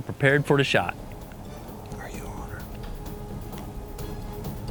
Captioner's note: whispering